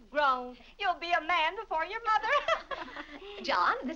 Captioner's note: laughs